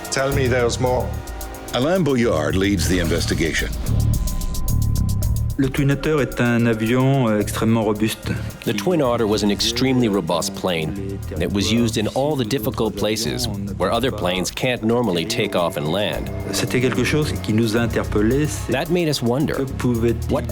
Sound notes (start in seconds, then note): 5.8 speaking in foreign language